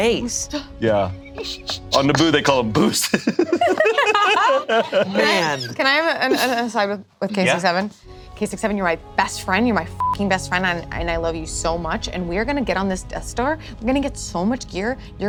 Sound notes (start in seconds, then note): 3.5 group laughs; 10.0 beep